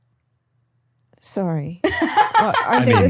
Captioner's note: laughing